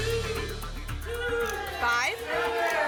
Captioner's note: audience shouting numbers